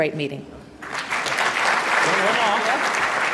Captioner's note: applause